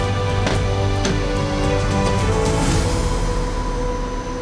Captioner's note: cargo hold latching